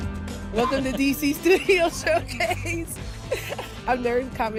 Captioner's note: all laughing